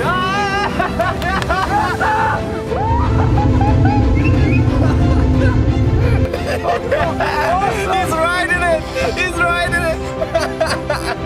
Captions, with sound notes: *laughter and cheering* *sound of the engine* *laughter* He's riding it! He's riding it! *laughs*